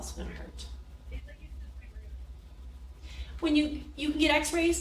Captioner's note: people chattering